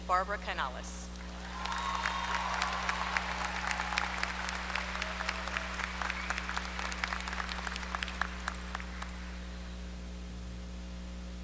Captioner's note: applause